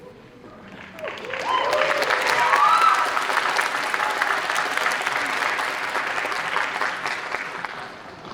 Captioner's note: applause